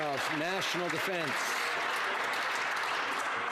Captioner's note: some Applause